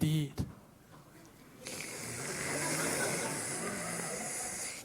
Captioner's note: slurps trà